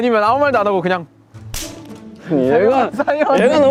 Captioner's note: snaps